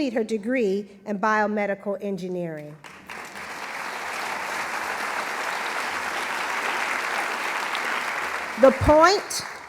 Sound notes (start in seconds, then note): 6.5 applause